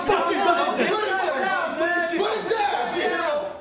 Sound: men yelling

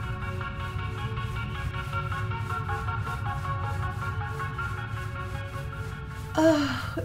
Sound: sound of brush scrubbing

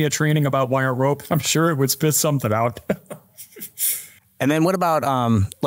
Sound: laughs

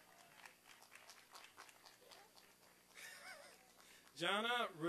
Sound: applause and cheering

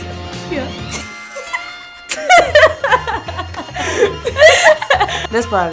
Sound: laughing

